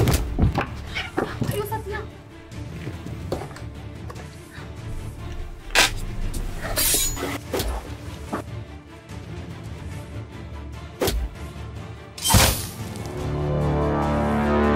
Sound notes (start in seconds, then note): 11.5 knife being pushed into stomach